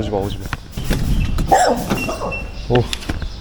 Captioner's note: threatening